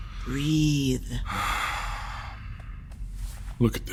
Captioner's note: Chartrulean breathes deeply